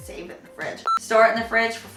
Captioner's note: beep